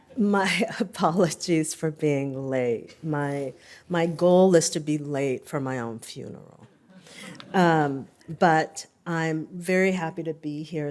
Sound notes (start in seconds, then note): 6.8 laughter